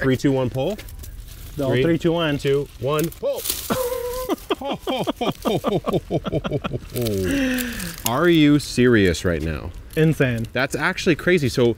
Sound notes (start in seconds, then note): 3.6 both chuckling